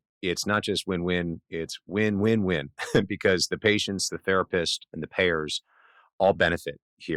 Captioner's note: laughs